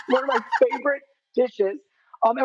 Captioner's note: Rachael claps